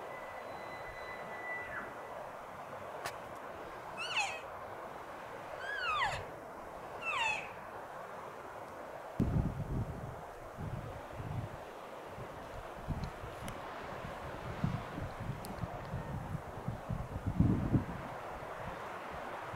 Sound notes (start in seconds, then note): 0.1 elk bugling; 5.6 caller cow calling